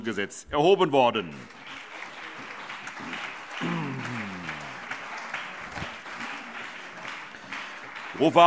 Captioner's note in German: Beifall CDU und BÜNDNIS 90/DIE GRÜNEN